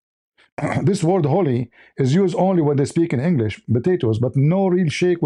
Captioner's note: clears throat